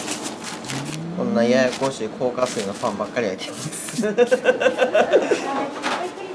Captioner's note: laugh